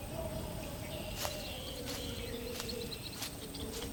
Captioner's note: wind howling